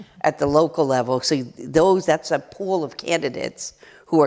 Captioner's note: none